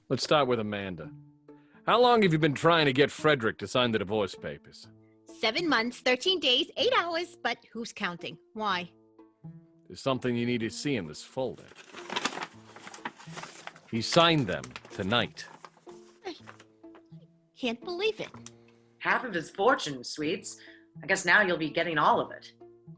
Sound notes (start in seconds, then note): 11.5 paper rustling